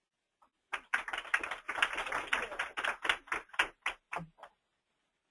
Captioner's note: applause